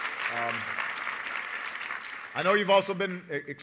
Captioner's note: applause